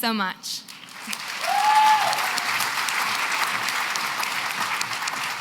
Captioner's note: cheering and applause